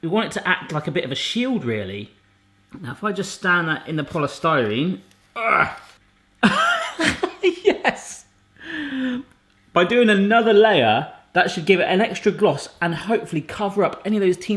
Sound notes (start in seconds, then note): 5.4 grunts; 6.4 laughing